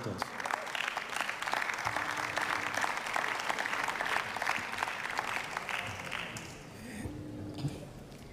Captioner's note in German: Beifall